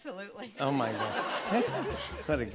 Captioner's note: laughter